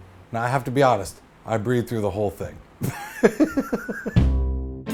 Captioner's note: laughs; theme music plays